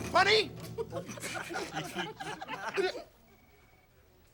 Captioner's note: all giggling; giggling stops